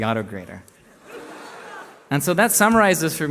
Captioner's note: laughter